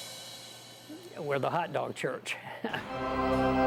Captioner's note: chuckling